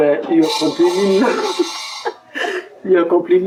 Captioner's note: laughs